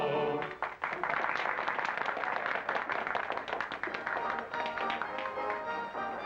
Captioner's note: applause; upbeat music